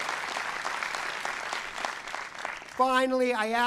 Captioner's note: cheering and applause